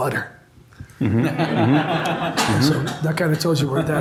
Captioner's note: audience laughs